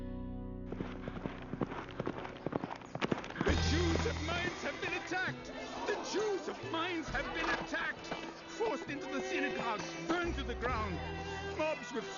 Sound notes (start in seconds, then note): 6.1 crowd mutters